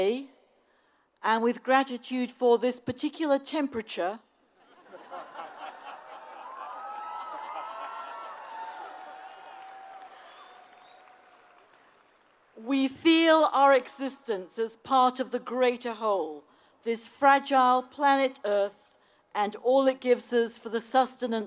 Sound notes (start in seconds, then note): 4.9 laugh; 6.3 applause